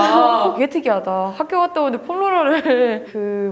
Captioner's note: laugh